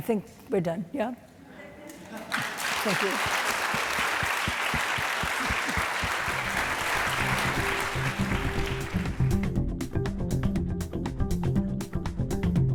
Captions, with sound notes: I think we're done. (audience applauding) Thank you. (upbeat music)